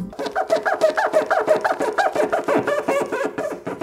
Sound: squeaking

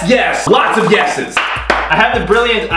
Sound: claps

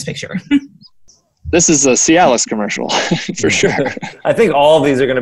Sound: laughs

